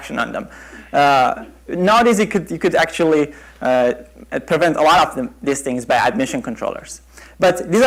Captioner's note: chuckle